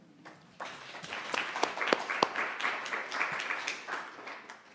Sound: audience applauds

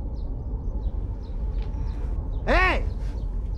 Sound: suspenseful rumbling

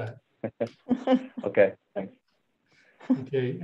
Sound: chuckles

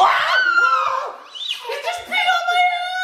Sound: screaming

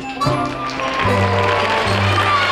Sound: audience claps

